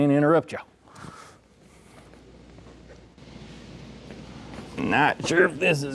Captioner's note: footsteps